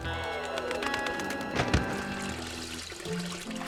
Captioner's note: thump